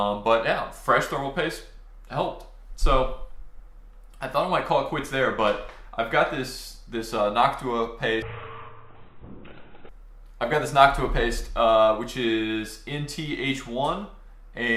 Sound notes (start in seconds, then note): 8.2 slow motion whooshing